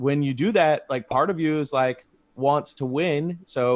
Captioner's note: logo popping